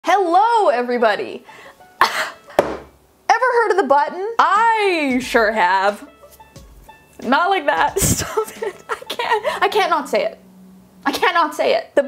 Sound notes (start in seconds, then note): 2.0 coughs; 8.0 laughs